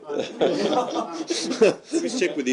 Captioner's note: laughter